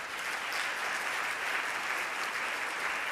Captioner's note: applause